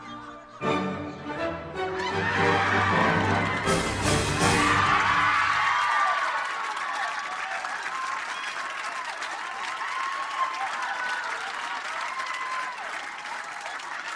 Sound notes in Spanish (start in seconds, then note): 5.4 Aplausos; 11.4 Risas